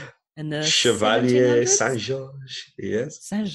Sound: french accent

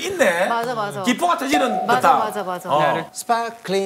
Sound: tok!

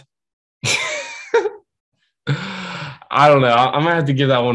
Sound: laughing

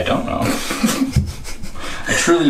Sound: laughter

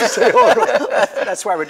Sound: all laughing

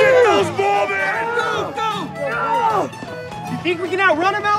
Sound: crowd shouting

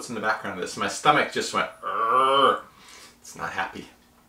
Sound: groans

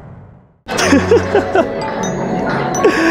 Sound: laughs

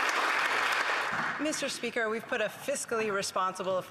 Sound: applause

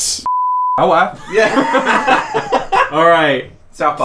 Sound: laughing

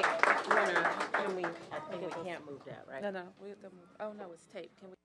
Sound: applause

